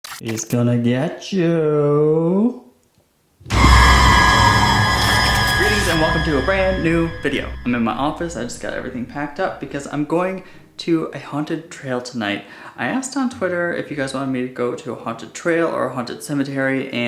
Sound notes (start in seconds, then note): 3.4 scary Sound